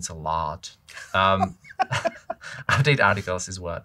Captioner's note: laughter